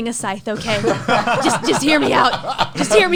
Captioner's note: laughs